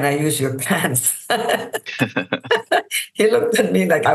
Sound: laughter

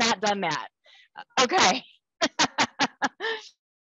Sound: laughs

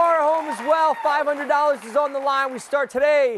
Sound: cheers and applause

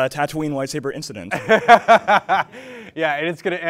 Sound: laughs

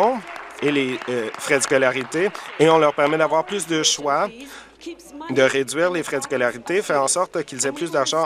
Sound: applause

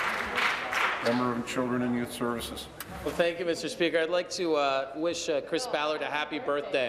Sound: applause

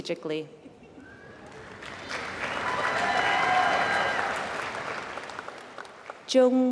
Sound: applause

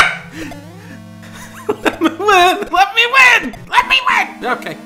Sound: laughing

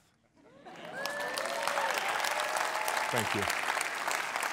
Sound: audience cheers

